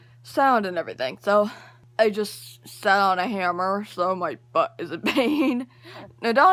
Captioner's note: laughing